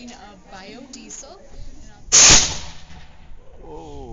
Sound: shooting sound

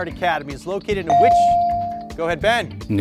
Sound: bell dings

